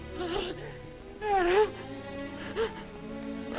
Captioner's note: crying